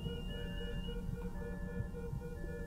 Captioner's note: beeping stops